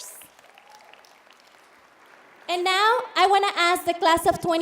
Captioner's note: applauding